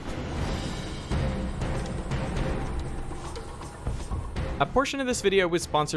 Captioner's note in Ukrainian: інтенсивна музика; гурчання ло́патей вертольота